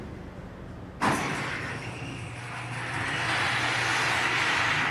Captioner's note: traffic noise